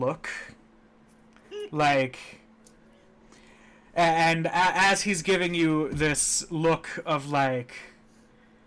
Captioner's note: laughing